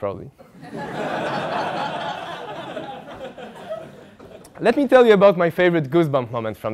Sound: laugh

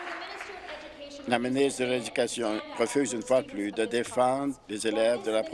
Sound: applause

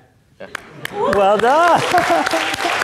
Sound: audience applauding

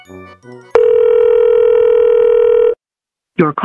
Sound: phone ringing

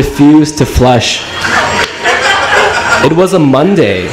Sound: laughter

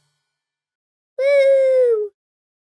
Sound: child cheering

